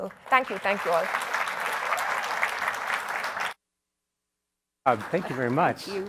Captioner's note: applause